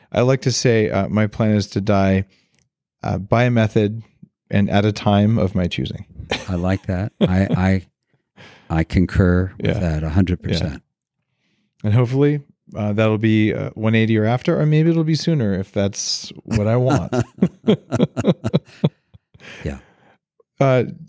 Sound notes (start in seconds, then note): 16.2 laughing